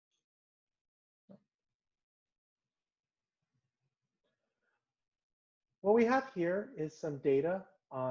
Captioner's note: pause